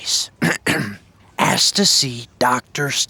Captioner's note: throat clearing